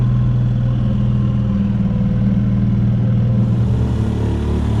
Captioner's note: boat engine hums